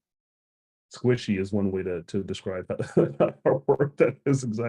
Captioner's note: laughs